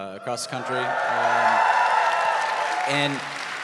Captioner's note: audience cheering